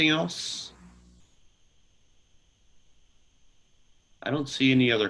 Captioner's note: silence